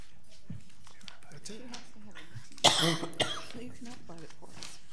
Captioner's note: people murmuring